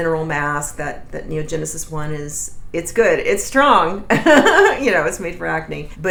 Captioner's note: laughs